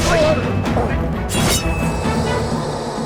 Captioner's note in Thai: เสียงลูกดอก